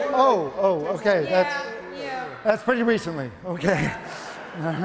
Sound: audience laughing

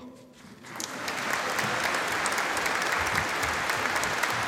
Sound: audience applauding

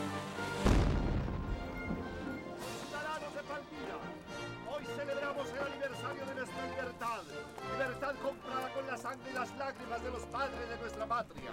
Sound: cannon blast

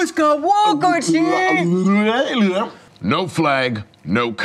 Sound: excited grunting

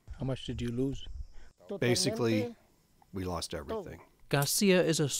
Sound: through translator

